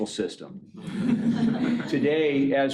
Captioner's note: laughing